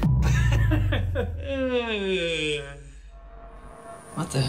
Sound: laughter

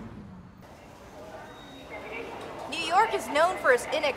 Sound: people bustling

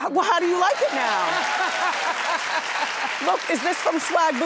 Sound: audience applauding

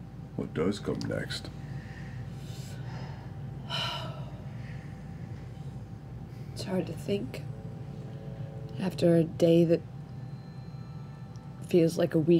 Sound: sighs

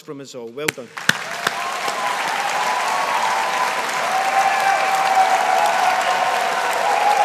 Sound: audience applauding

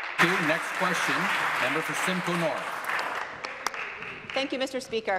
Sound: applause

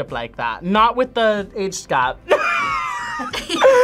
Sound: laughs

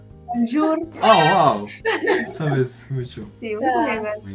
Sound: Spanish

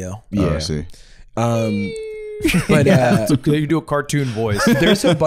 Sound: mimicking bomb descent

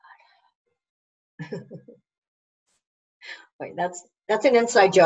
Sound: laughs

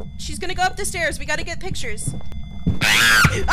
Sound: ghost groaning; more ear murder screaming; screams

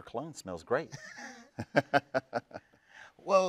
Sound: both chuckle

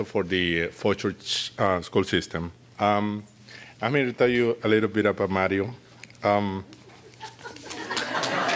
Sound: applause

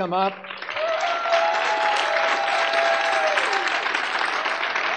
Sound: audience cheering

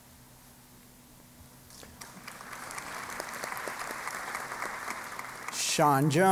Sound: applause

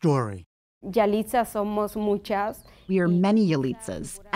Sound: speaking Spanish

